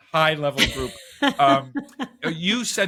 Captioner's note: laughing